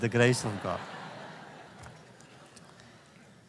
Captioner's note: laughter